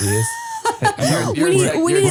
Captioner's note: laughing